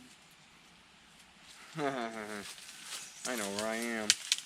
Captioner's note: laughs